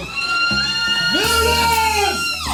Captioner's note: women screaming